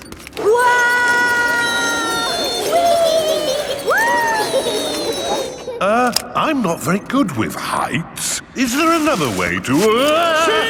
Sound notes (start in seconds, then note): 0.9 all yelling